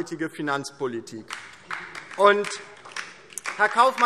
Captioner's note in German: Beifall DIE LINKE